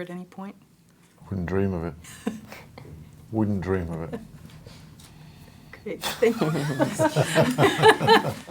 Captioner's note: laughs